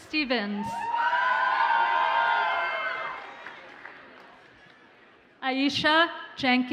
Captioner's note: audience cheers and applauds